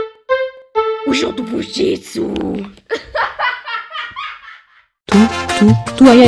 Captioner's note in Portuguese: Risadas